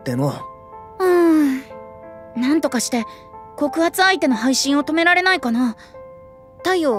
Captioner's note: sigh